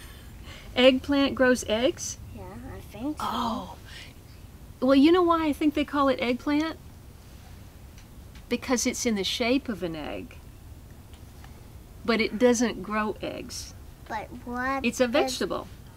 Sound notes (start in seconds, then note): none